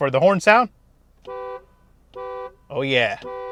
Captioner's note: car hooting